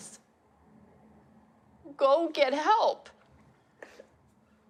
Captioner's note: sniffles